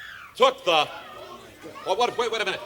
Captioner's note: woman screaming